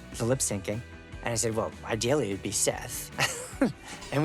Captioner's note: chuckles